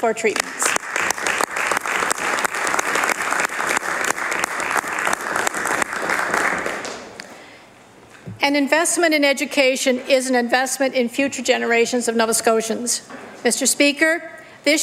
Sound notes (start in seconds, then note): 7.1 applause